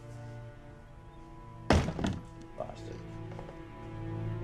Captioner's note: door banging